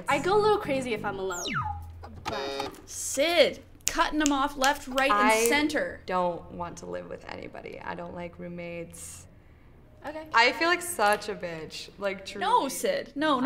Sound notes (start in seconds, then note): 1.2 buzzer sounding